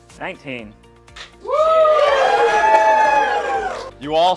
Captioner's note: cheers